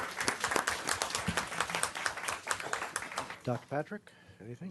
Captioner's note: clapping